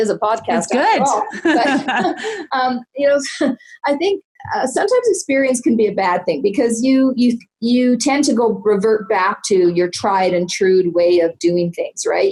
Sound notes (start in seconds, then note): 1.0 laughing loudly